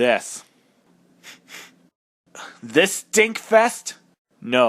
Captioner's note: sniffs